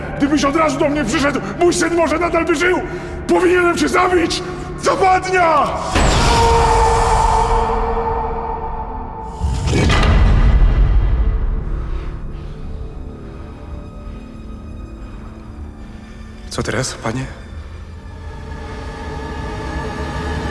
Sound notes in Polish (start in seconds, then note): 9.4 Dźwięk zamykającej się zapadni